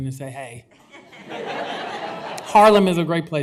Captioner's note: laughter